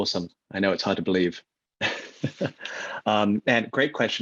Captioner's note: laughs